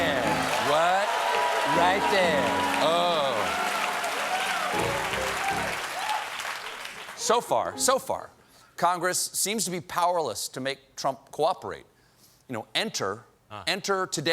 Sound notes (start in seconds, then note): 2.9 applause